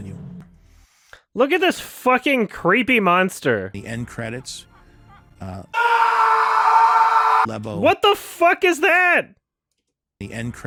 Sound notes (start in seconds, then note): 5.7 sound effect of man screaming in agony